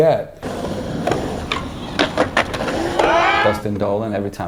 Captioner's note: skating and crowd cheering